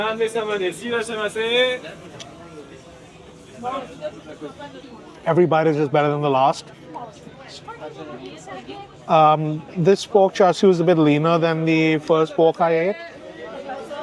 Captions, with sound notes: (people chattering) Every bite is just better than the last. This pork char siu is a bit leaner than the first pork I ate.